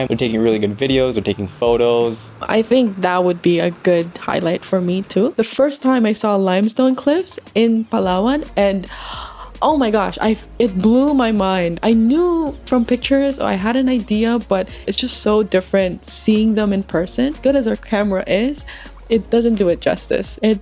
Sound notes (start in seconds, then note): 8.9 gasp